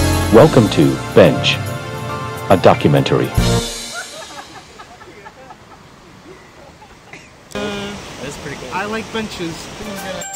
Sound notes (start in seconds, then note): 3.8 distant laughter